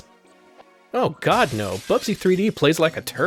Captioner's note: shattering glass sfx